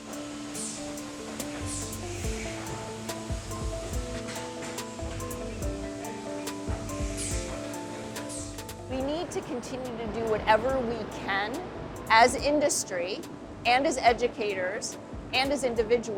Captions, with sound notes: (soft dramatic music) (machine hissing) - We need to continue to do whatever we can